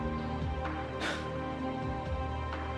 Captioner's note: sigh